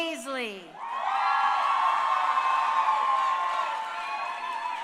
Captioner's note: crowd cheering